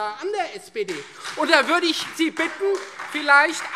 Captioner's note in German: Lebhafter Beifall Freie Demokraten - Beifall SPD